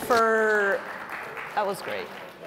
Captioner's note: audience applauds